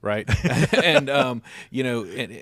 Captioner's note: panelists laughing